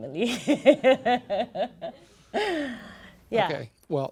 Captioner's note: laughs